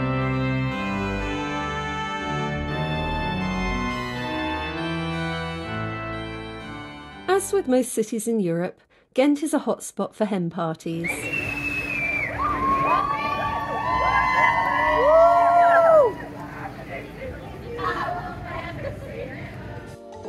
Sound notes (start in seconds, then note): 11.0 loud whistle; 11.3 cheering